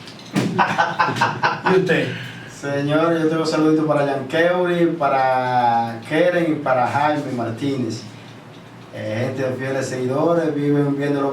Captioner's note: laughs